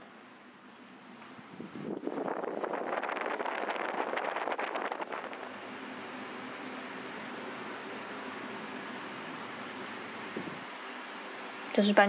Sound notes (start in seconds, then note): 1.8 electric fan whooshing; 6.2 fan whirring continues